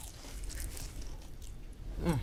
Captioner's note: lettuce crunches